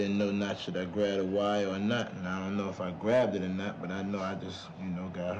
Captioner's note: none